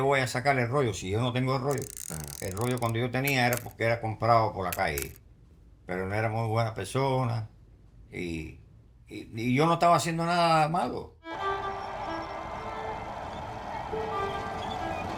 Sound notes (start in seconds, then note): 1.7 camera clicking; 3.0 continues speaking in foreign language; 11.3 soft music